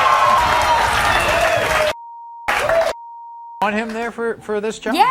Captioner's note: audience cheering; audience applauding